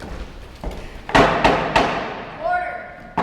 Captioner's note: gavel bangs